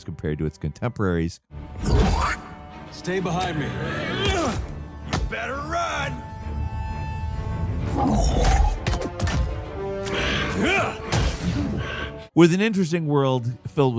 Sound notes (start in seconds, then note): 2.2 creature growling; 6.9 tense music; 7.9 creature growling